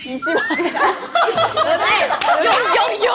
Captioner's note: laughing